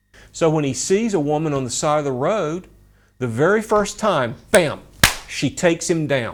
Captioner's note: claps